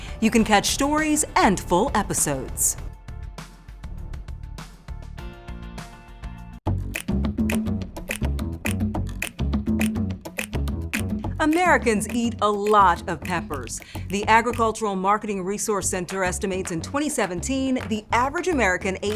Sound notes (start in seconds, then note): 3.8 upbeat music; 7.0 rhythmic music; 8.0 snapping fingers